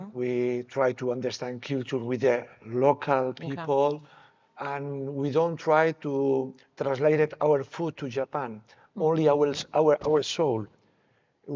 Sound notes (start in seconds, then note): none